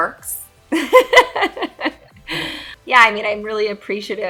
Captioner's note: Jessica laughs